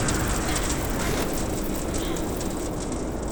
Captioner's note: wind howling